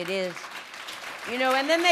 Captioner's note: applause